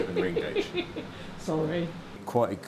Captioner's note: laughing